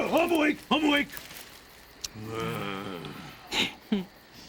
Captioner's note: groans